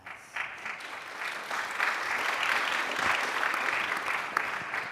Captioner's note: audience applauding